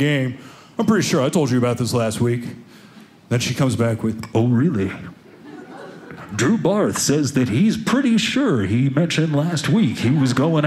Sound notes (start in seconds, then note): 5.3 audience laughing